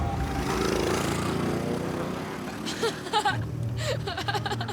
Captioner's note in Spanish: ruido del motor del go kart